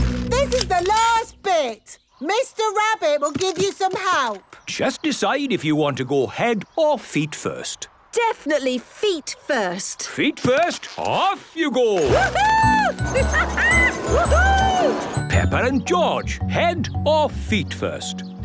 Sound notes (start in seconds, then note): 12.0 laughing